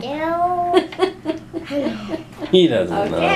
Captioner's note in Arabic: يضحك